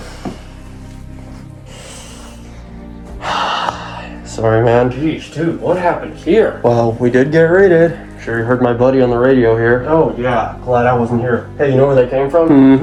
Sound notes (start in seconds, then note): 0.1 somber music; 3.1 sighs